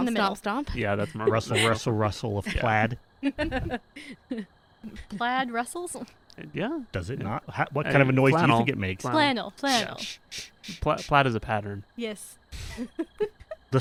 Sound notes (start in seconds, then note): 3.2 laughter; 9.8 rustle rustle rustle